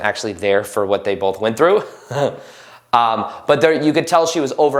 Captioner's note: laughs